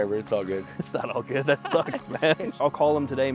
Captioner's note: chuckles